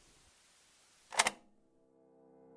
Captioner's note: click